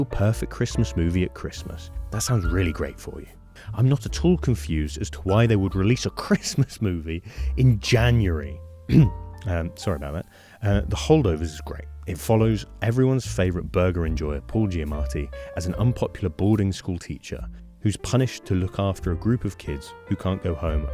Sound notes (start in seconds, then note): 8.9 clears throat